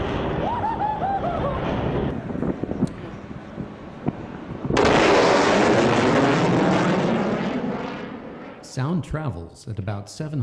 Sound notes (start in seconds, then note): 4.5 loud boom